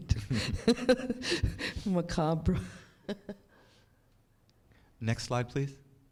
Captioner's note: chuckles